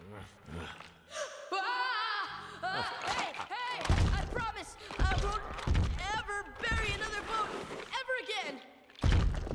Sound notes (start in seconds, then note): 0.0 gasps